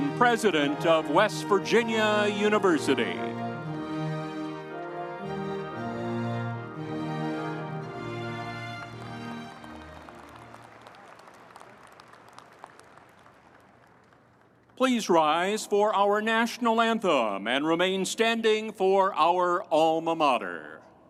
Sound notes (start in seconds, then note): 7.2 audience applauding